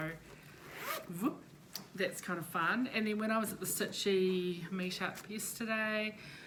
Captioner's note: ziiiipppp!